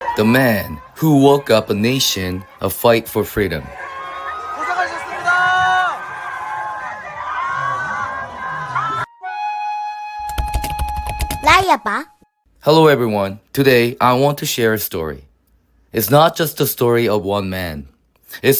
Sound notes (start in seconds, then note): 3.8 crowd cheering; 5.0 crowd chanting